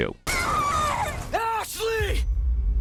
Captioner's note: Ashley screams